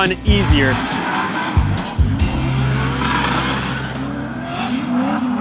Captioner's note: car engines roar